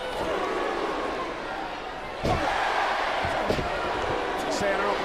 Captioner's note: crowd chants "boo/yeah"